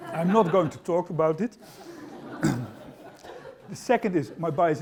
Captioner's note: laughter